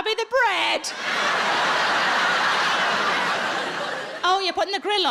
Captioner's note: audience laughs